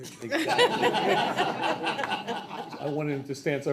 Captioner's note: people laugh